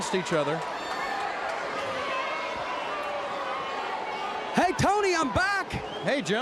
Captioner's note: crowd chatter